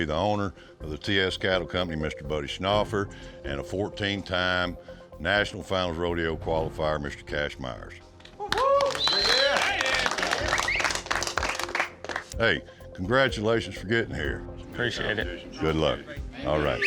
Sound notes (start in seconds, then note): 8.4 cheering, applause